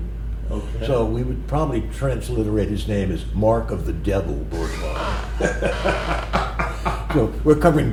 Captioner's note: laughter